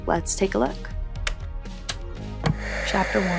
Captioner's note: remotes clicking